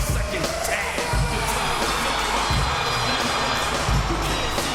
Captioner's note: crowd cheering